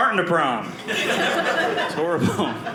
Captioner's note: audience laughing